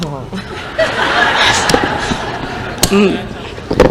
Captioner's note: crowd laughter